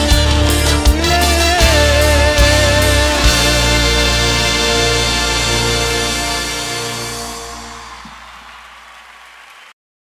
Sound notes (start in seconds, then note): 6.5 applause